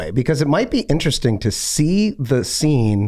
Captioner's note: none